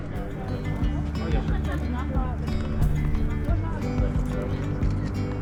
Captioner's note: laughs; instrumental music